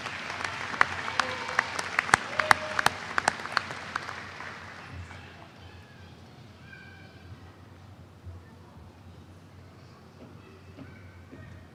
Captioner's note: applause